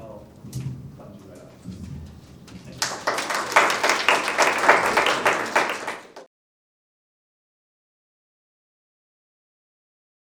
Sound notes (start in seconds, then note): 2.7 clapping